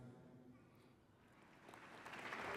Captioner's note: applause